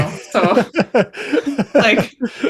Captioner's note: laughter